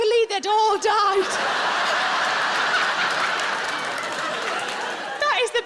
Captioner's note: audience laughing